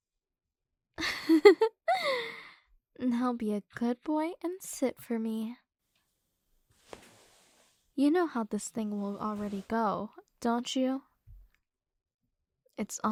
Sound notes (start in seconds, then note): 1.0 giggle; 6.7 bed Creak